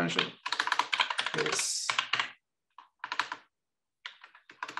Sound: keyboard clattering

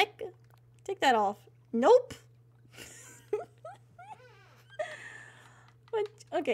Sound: laughter

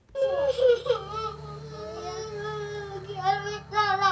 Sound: child crying; Spanish speaking

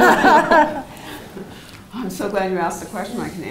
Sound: laugh

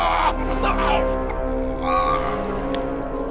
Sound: shouting

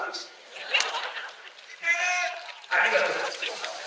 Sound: laughs

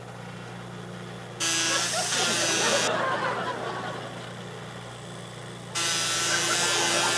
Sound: machine whirring; buzzing; continuous audience laughter, intermittent buzzing

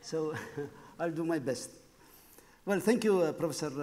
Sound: laughing; laughs

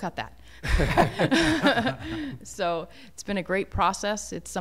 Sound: laughter

